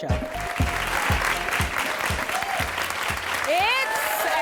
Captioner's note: crowd applauding